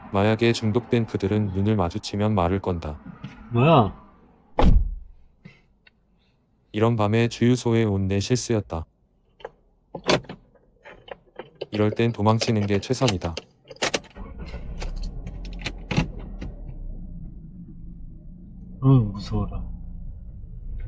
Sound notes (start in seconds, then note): 4.6 sound of door closing; 9.9 sound of door locking; 13.7 starting the engine